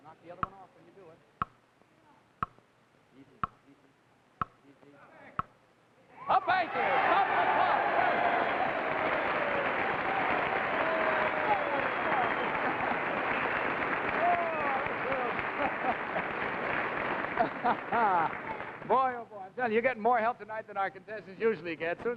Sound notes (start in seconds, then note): 7.6 audience cheers; 15.1 host laughs